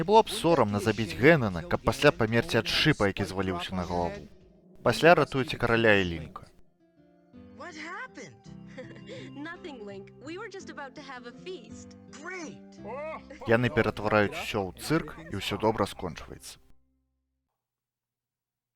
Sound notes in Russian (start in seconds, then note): 8.6 смяецца; 13.4 абодва смяюцца